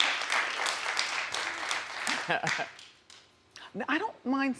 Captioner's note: audience applause